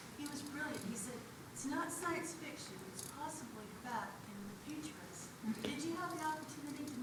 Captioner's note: none